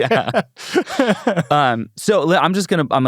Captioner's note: laughs